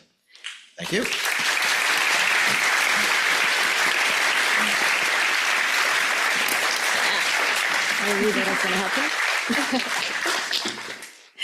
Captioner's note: audience applauds